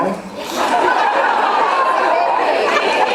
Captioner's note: laughs